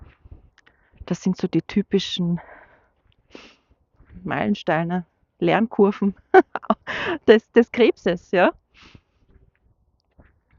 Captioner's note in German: gelächter